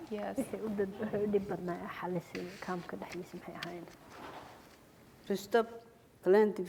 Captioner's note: speaking foreign language